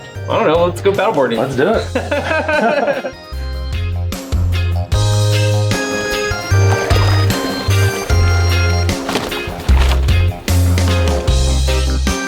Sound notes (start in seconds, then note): 2.0 laughing